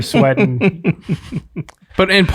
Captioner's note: chuckling